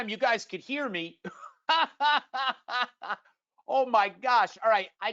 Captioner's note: laughs